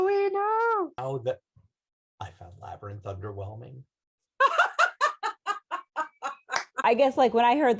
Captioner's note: laughter